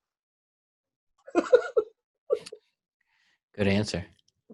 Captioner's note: laughs